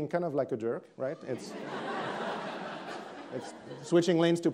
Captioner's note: attendees laughing